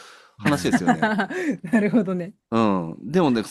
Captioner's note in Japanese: 笑い